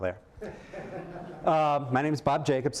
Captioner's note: laughter